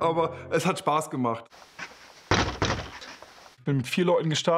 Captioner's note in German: Musik endet. Originalton: Fuß hämmert gegen Tür